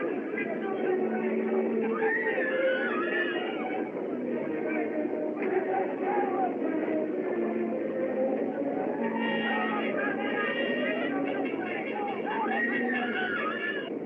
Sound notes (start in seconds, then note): 1.8 screaming; 11.9 screaming